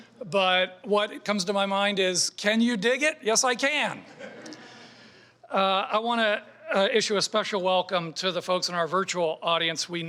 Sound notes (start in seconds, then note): 4.1 audience laughing